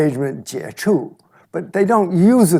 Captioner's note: speaks in foreign language